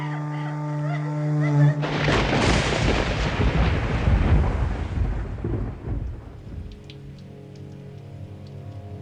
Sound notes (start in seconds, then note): 1.8 thunder; 6.7 sombre Background Music